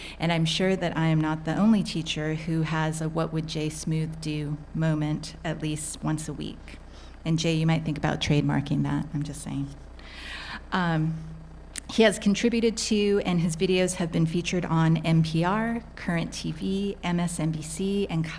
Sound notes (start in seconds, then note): none